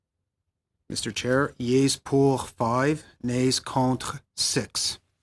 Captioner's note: speaking French